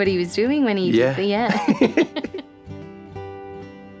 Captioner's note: both laugh